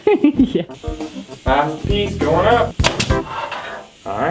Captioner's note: giggles